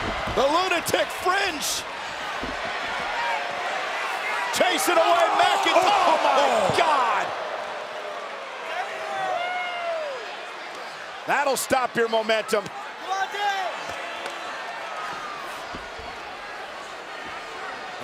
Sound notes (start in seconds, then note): 7.3 applause